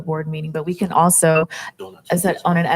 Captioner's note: electronic device beeps